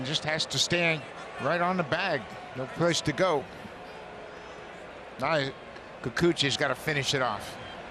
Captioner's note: cheering and Applause